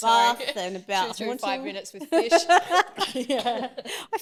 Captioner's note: laughs